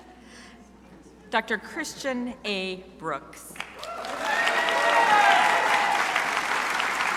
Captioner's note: crowd applauding